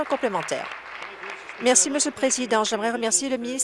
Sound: applause

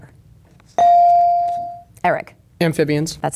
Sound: bell dinging

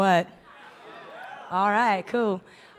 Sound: audience cheers

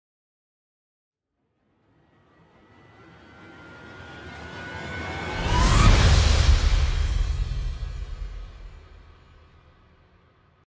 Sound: sound of hit and riser

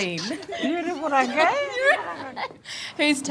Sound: laughs; speaks luritja dialect

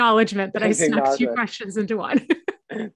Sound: laughs

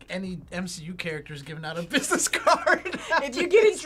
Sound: laughs

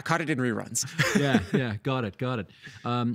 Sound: laughing

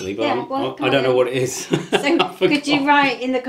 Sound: laughs

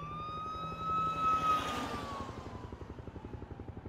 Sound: helicopter whirring

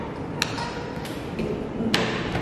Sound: dramatic slap; stutters; slapping tables

